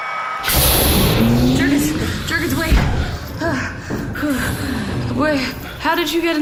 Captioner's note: exhausted